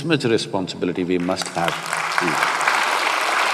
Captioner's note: applause